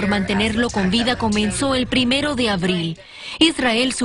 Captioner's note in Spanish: hablando en inglés